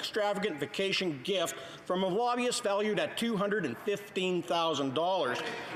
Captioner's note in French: voix de l'interprète